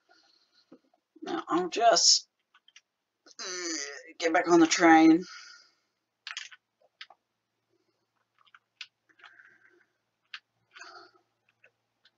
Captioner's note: eeuurrgg